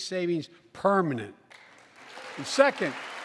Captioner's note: applause